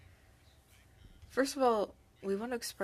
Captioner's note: speaking French